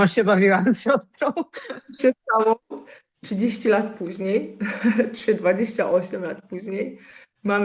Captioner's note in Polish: śmiech